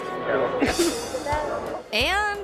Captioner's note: coughs